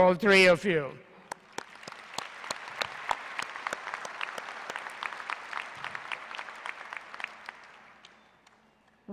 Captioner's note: applause